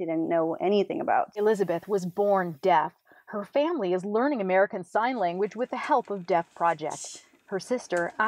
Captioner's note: voiceover